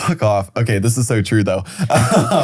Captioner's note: laughing